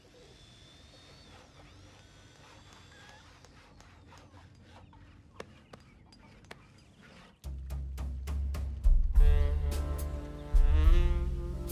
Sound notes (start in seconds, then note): 0.0 drilling and sawing; 3.3 hammering; 9.1 sexy saxophone music plays